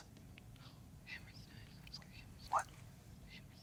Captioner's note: whispering